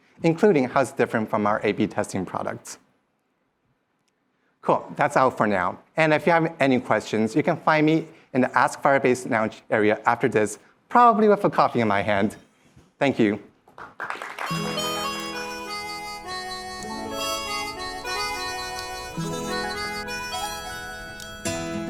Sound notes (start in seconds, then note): 13.7 applause